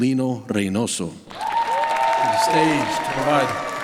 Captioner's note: applause